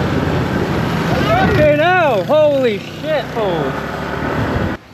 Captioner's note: shouts